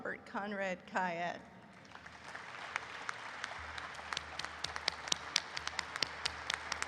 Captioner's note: applause erupts